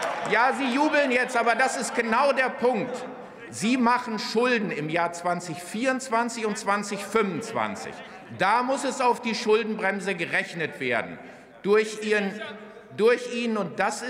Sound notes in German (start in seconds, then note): 0.0 Lachen und Beifall bei Abgeordneten der SPD und des BÜNDNISSES 90/DIE GRÜNEN